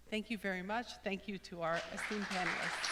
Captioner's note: applause